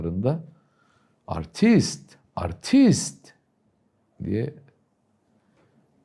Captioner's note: arrogant in Turkish